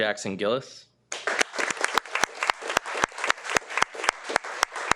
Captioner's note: participants applauds